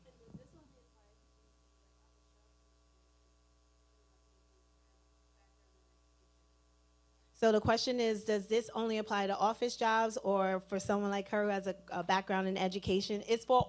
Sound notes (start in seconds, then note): 3.1 person speaking away from mic